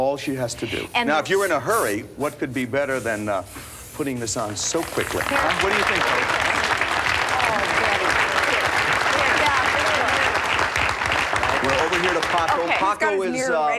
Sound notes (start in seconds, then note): 4.8 applause